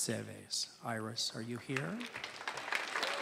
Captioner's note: applause